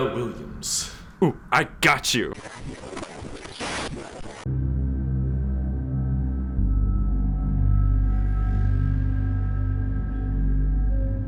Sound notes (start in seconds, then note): 2.4 radio static; 5.1 eerie music begins